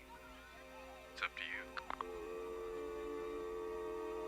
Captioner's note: line disconnects